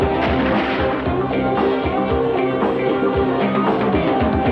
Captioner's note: gunshot firing